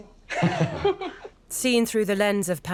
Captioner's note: Charles laughs loudly